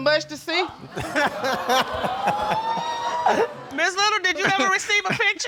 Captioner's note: all laughing